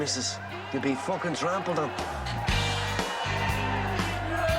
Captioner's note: Continúan los aplausos